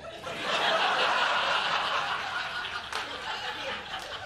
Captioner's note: laughter